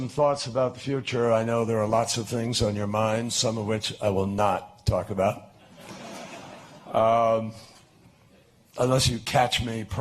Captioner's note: laughter